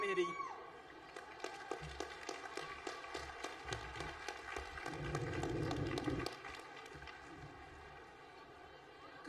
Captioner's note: applause